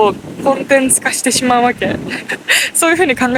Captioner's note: laughs